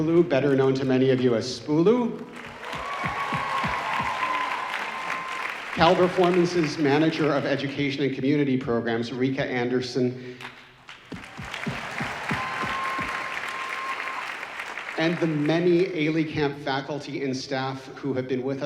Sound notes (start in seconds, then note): 2.2 audience cheering; 11.0 audience cheering